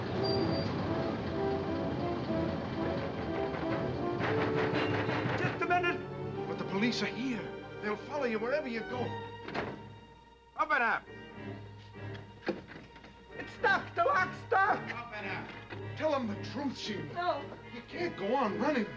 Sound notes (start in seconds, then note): 3.3 Johnson pounding